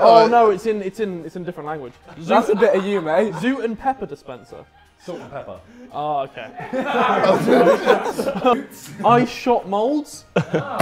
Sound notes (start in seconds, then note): 6.4 Sidemen laughing